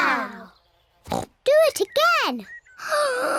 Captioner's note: oinks; inhales deeply